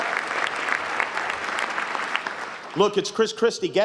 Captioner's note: cheers, applause